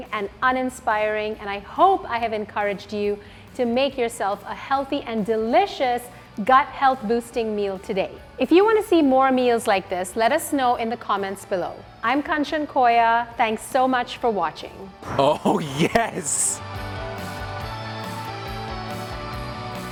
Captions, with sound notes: and uninspiring and I hope I have encouraged you to make yourself a healthy and delicious gut health-boosting meal today. If you wanna see more meals like this, let us know in the comments below. I'm Kanchan Koya, thanks so much for watching. - [Excited Voice] Oh yes! (upbeat music)